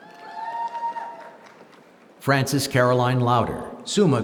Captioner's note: applause